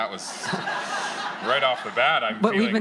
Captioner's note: audience laughing